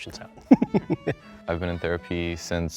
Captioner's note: giggle